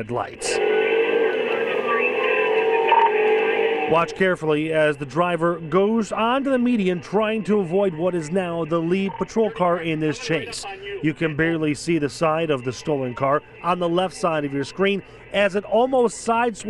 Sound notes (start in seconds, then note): 12.0 siren